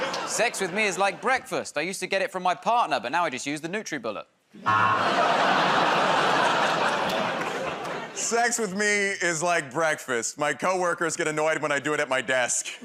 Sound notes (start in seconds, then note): 4.6 audience "Oh"s